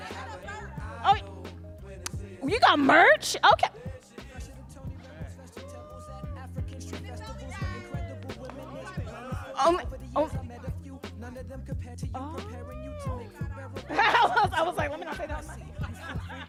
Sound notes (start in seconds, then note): 9.0 speaking softly; 12.4 laughs